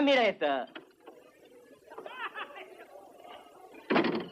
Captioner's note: laughter, chatter